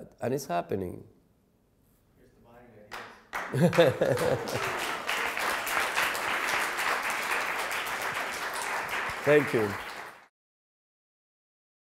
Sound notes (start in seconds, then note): 2.9 applause; 3.5 laughing